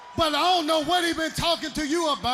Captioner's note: crowd cheering